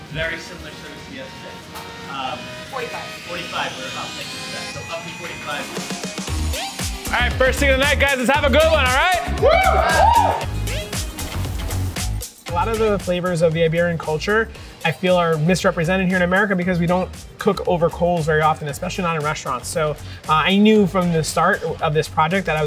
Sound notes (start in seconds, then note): 6.2 upbeat music continues; 9.0 people cheering